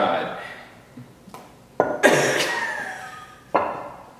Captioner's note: laughing